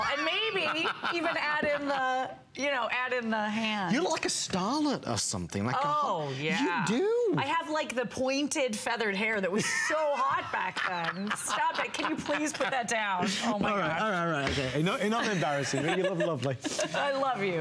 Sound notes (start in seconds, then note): 9.5 laughter